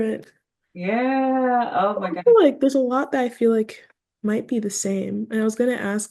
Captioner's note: laughs